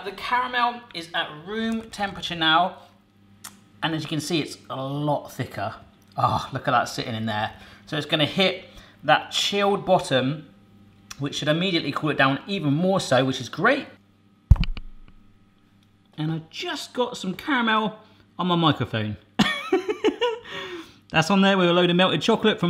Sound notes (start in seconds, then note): 18.8 laughing